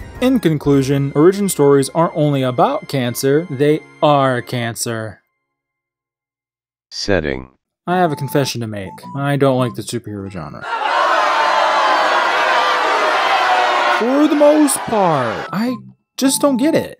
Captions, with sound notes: ;In conclusion, origin stories aren't only ABOUT cancer. They ARE cancer. I have a confession to make: I don't like the superhero genre... [Booing] for the most part! [Booing] [Booing] I just don't get it.